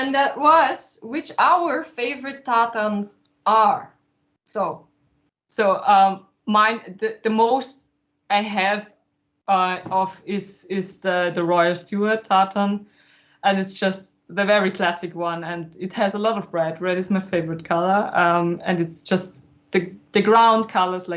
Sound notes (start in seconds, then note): none